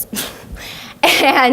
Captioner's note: laughs